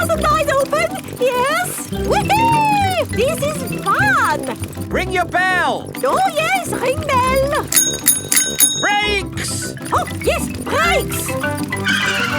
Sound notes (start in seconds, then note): 7.3 rings bell; 12.1 tires screech